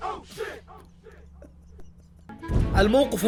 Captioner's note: chuckles